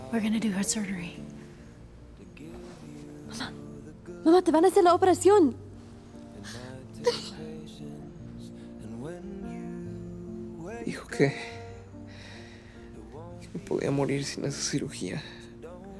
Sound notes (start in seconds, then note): 7.0 laughs